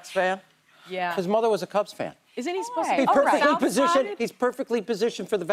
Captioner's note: laughter